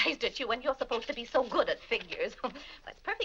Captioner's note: laughs